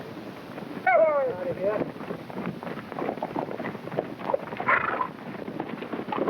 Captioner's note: hooves clopping; cowboys whooping